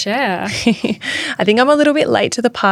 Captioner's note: giggling